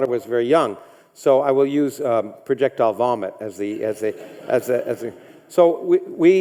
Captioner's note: audience laughs